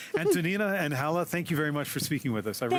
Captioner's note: laughter